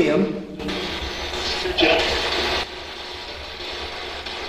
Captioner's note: static buzzing